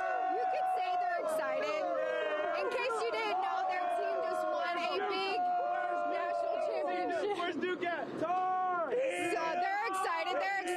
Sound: cheering

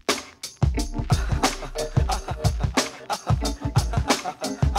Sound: laughter

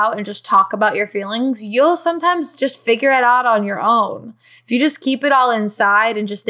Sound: none

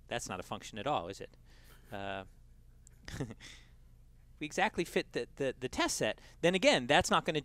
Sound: laugh

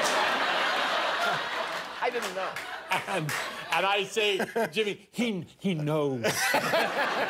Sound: laughter

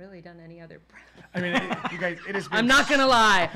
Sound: both laughing

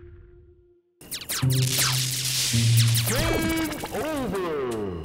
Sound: video game noise

